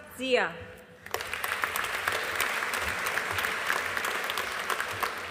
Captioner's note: audience applauding